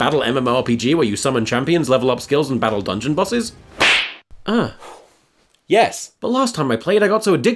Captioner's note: slap